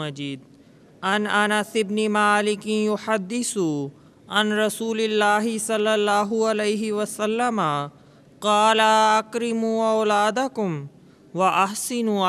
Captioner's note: Arabic